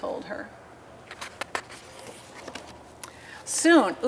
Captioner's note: paper rustling